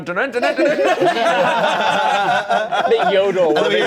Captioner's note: everyone laughing